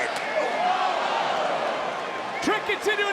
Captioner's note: crowd gasps